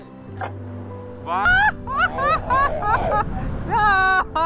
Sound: screaming with joy

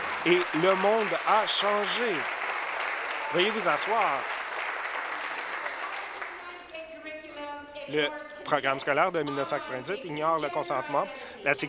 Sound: applause

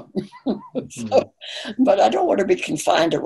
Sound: laughing

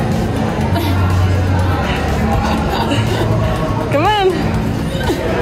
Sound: laughs

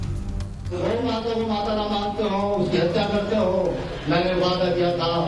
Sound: non-english speech

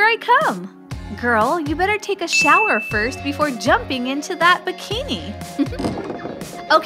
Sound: chuckle

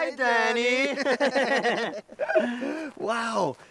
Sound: laughing

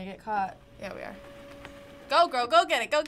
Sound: printer printing

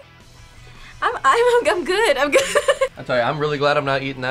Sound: laughs

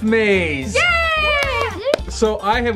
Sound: cheering

